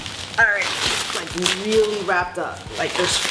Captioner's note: bubble wrap crinkling